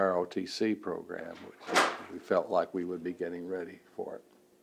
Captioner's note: door opens